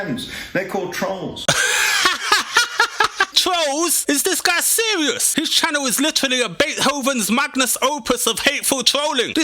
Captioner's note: hahahahaha